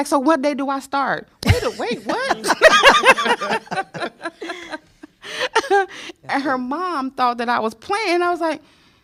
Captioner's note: laughter